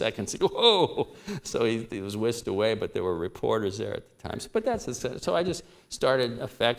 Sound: laughter

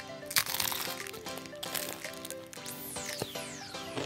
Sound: egg roll crunches

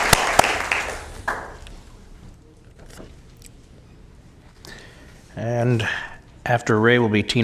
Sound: applause

